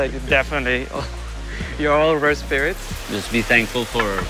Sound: chuckles

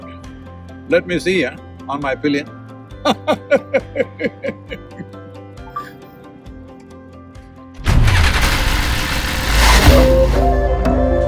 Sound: laughs

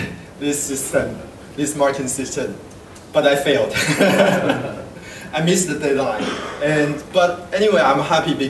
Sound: laugh

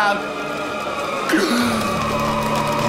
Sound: gasps

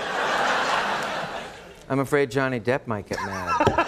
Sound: applause

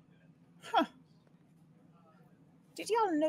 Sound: Maeve exclaims

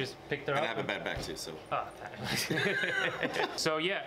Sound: laughs

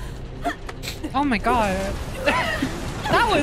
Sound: laugh

